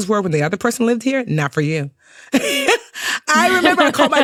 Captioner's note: chuckles